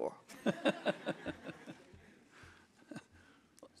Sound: all laughing

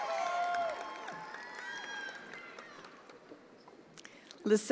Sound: attendees applauding

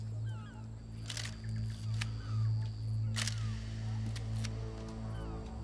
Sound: camera shutter clicking

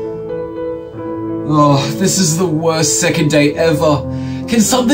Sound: sigh

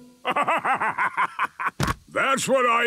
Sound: bursting laughter

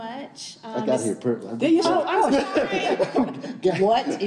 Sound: group laughing

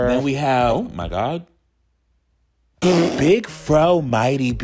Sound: lip-trilling

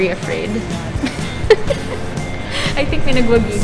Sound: giggles

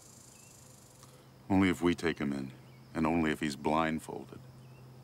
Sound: birds chirping

